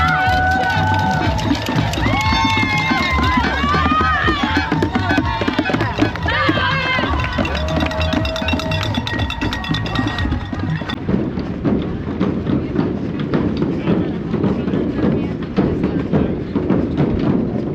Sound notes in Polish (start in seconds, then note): 1.7 Aplauz; 7.5 Aplauz